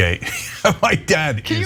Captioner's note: laugh